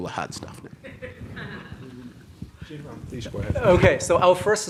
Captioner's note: audience laughs